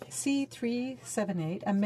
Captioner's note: speaking in french